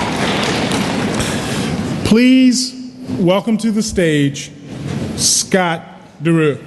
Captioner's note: cheering and Applause